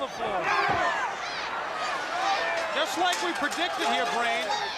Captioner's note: crowd chatter